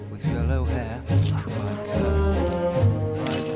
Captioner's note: gurgling